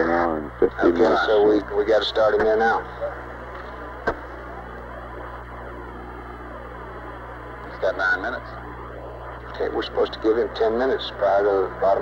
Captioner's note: mission Control Audio